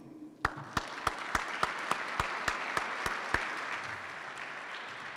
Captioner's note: participants clap